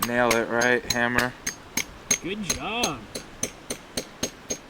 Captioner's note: hammer tapping